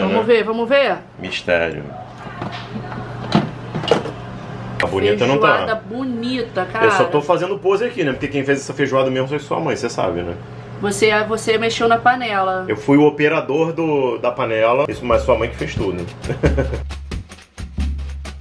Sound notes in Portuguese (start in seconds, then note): 16.2 risos; 17.2 samba tocando